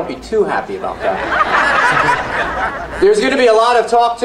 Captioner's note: audience laughs